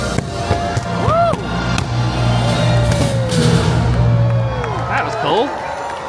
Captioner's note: fireworks banging; audience applauding